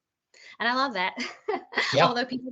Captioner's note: laughing